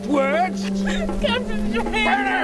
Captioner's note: sobbing